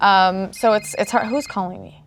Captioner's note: phone rings